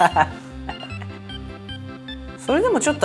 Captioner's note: bursting into laughter